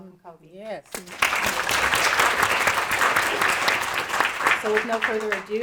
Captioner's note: audience applauding